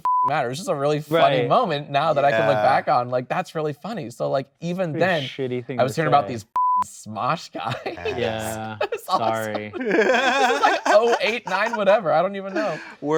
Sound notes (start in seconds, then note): 0.0 beep; 6.5 beep